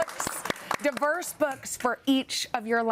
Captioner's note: applause